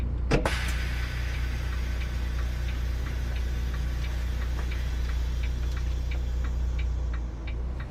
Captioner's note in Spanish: sonido del bus